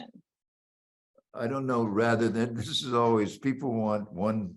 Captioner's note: laughing